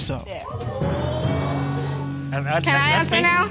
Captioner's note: audience exclaiming